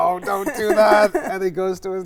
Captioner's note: laughs